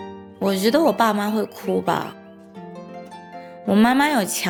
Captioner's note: in Mandarin